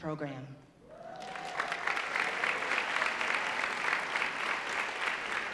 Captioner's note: audience applauding